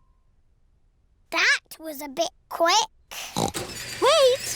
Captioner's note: oinks